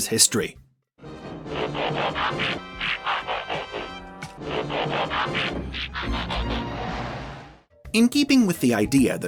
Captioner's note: transformation noise